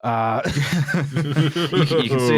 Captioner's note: laughter